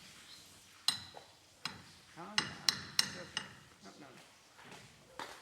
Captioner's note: hammer tapping